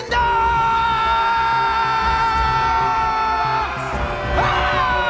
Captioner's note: all yelling